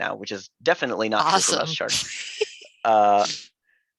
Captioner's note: chuckles